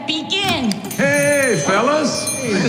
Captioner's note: door bell rings